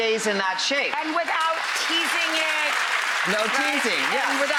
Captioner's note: cheering and applause